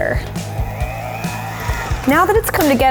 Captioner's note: mixer humming